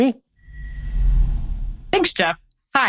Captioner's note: air whooshes